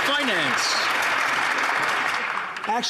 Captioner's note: some Applause